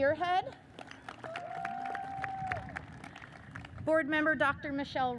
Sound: audience cheers and applauds

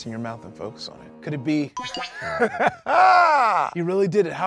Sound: laughs

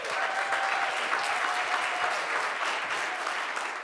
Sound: cheering

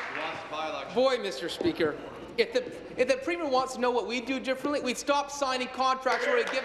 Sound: applause

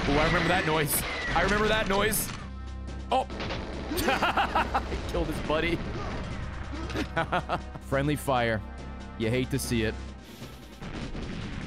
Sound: laughs

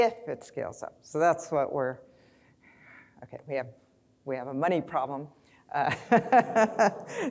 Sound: laughs

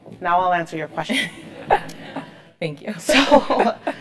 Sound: laugh

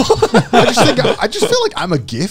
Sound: both chuckling

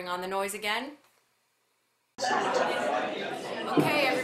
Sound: sound of noisy classroom

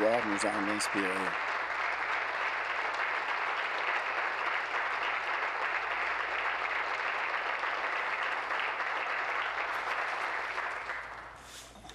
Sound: applause

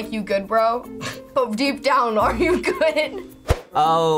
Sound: laughs

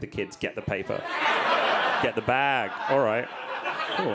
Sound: audience laughing

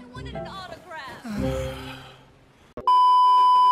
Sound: both sigh; beep

